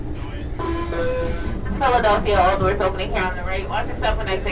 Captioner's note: female announcement